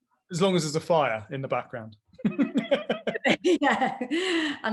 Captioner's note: laughs